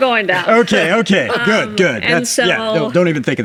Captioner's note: laughing